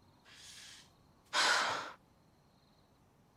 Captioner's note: sighs